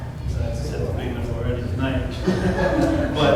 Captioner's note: laughter